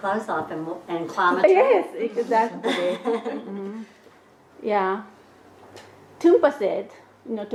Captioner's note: laughter